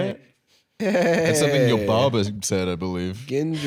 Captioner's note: mimicking "'Eyyy!"